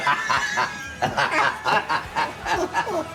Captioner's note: laughter